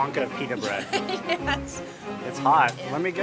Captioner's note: laughing